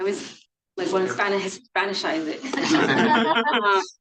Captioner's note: participants laughing; laughs